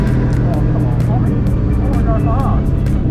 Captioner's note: engine pops